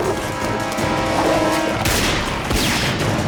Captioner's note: gunshots